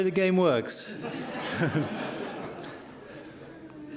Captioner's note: laughing